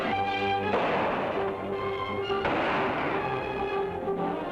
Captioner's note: guns firing